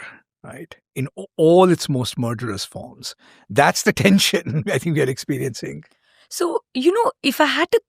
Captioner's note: chuckles